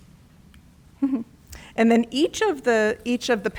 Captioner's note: chuckles